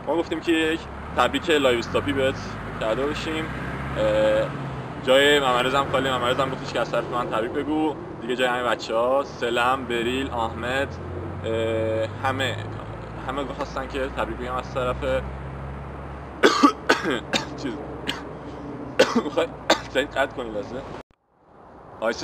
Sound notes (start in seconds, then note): 16.4 coughs!; 18.9 keeps coughing!